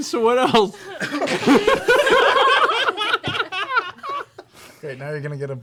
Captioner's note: laughter